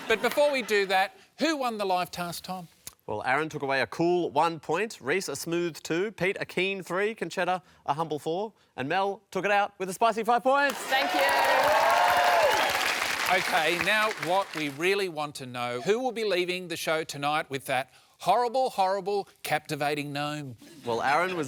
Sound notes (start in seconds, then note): 10.6 cheering and applause